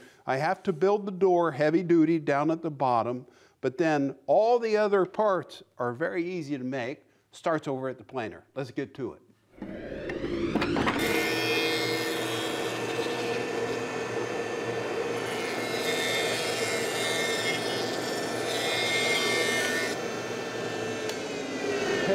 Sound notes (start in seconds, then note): 9.6 wood whooshing; 9.6 machine whirring